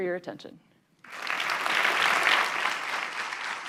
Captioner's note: applause